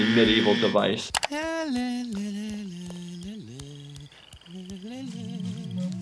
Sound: Mr. Burns vocalizing

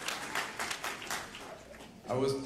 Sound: applause

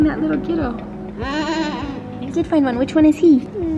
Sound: laughs

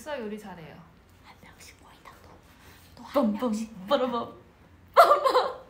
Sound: whispers

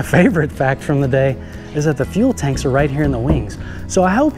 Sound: wing knocking

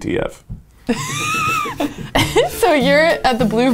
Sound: laughs

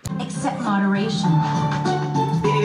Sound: television show playing

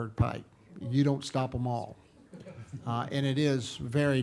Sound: people chuckling

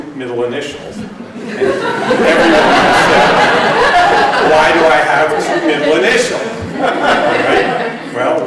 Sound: laughter

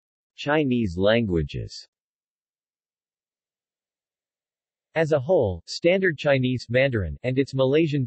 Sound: Mandarin

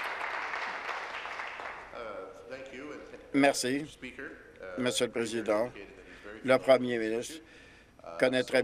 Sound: applause

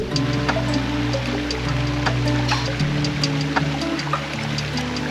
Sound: water running

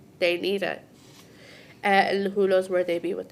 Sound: none

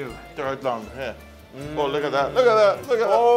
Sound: speaks in foreign language

